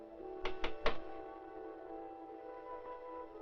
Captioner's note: knock at door